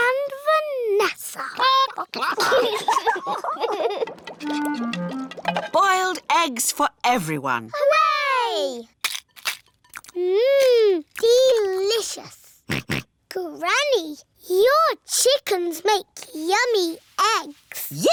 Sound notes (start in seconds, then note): 1.7 chickens chatter; 1.8 children giggle; 12.0 george oinks